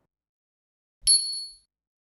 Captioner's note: bell dings